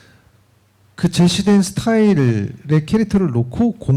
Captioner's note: speaking korean